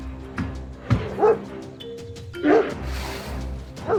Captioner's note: dog barking